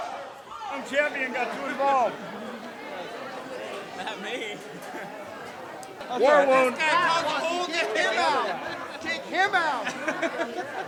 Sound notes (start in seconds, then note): 4.7 laughs